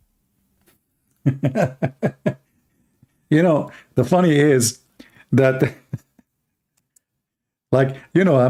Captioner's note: Ketawa